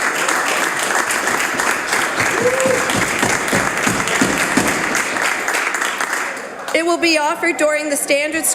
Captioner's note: some Applause